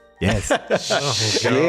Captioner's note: laughter